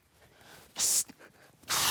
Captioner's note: tap hisses